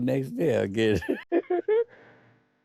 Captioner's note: laughs